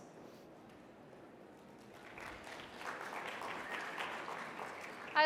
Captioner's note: audience applauding